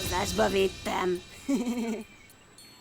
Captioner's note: chuckling